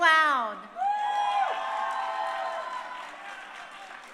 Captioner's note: crowd cheering